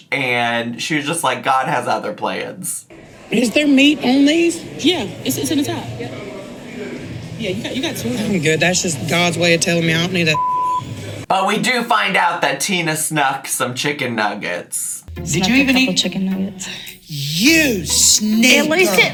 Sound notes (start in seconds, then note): 10.3 beep